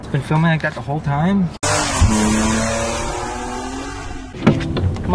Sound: car noises

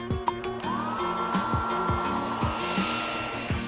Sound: hair drying sound

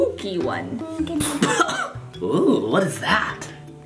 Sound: man spluttering

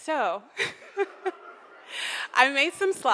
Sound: audience laughs

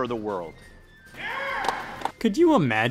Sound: claps

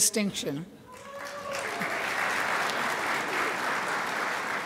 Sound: crowd applauds

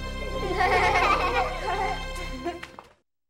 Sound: laughing

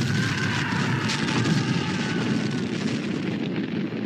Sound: "the doctor" screaming; explosion; "the doctor" screaming; fire crackling

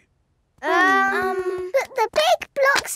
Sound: children hesitating

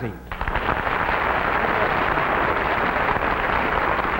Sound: audience clapping

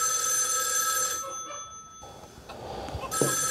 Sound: phone rings

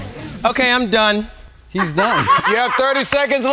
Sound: laugh

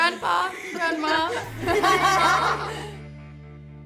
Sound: laughter

